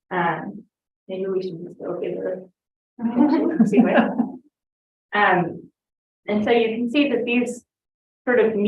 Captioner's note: laughter